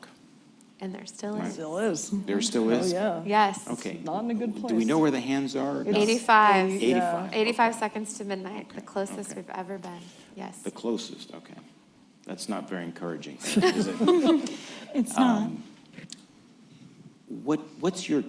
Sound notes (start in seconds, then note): 13.4 laughter